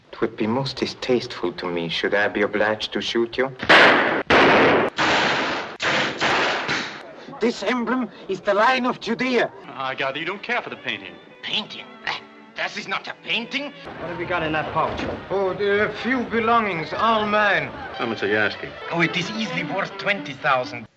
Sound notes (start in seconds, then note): 3.6 guns firing; 12.2 scoffing